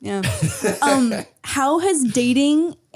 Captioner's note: Harry laughing